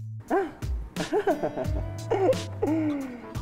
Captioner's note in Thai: หัวเราะ